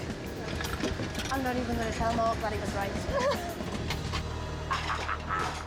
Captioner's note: laughing